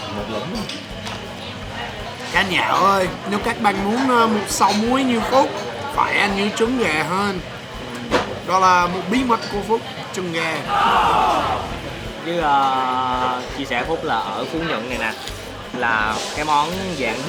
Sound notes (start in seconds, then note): 3.8 slurping the whole thing, lol